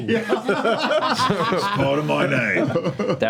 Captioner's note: laughs